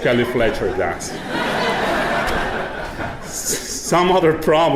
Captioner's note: audience laughing